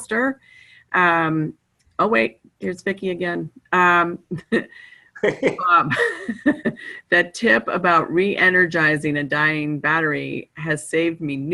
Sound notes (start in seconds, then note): 5.2 chuckling